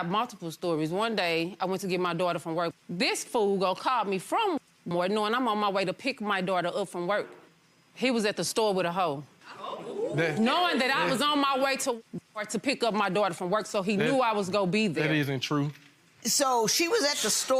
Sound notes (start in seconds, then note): 10.2 audience exclaims